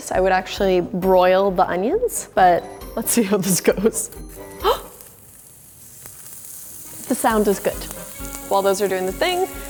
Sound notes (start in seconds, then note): 4.9 gasps; 6.2 onions sizzling